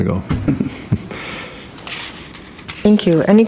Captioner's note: people chuckle